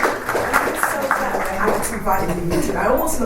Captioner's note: panellists and audience applaud